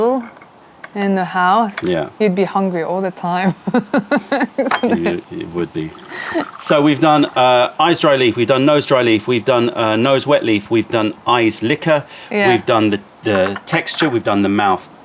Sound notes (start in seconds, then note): 3.4 laughter; 4.9 pouring tea